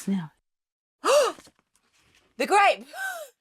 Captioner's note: gasps